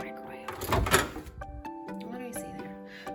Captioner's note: door clicking